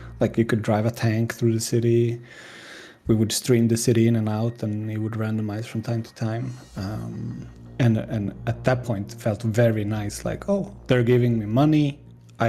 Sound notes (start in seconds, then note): none